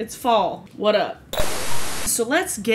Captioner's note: static sound